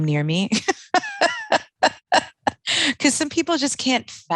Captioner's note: laughing